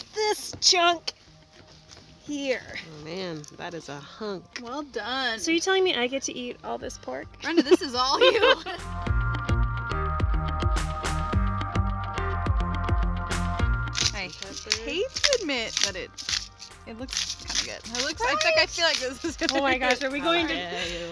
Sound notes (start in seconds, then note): 8.1 laughing; 9.2 upbeat music